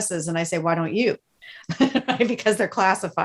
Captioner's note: laughing